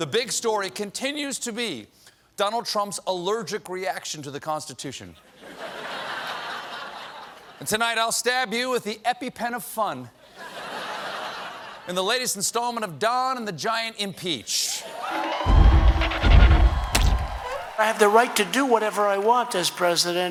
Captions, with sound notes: THE BIG STORY CONTINUES TO BE DONALD TRUMP'S ALLERGIC REACTION TO THE CONSTITUTION, AND TONIGHT, I'LL STAB YOU WITH THE EPIPEN OF FUN IN THE LATEST INSTALLMENT OF "DON AND THE GIANT IMPEACH." ( CHEERING ) >> I HAVE THE RIGHT TO DO WHATEVER I WANT AS PRESIDENT.